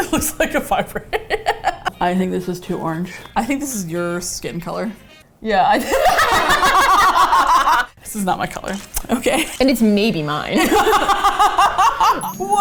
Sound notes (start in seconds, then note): 0.0 laughing; 0.0 laughs; 5.6 swiping onto skin; 7.1 both laugh; 10.5 laughs; 10.6 both laugh